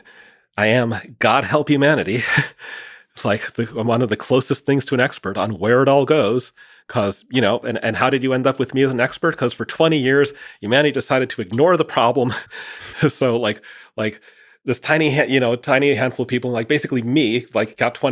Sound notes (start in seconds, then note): 2.9 chuckles